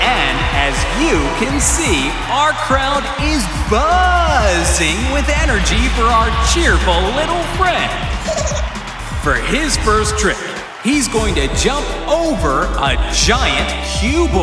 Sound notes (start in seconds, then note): 7.8 giggling